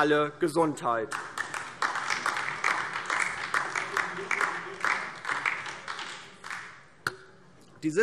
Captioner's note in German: Beifall DIE LINKE